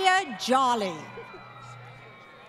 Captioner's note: laughter